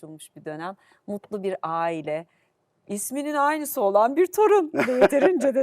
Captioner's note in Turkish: kahkaha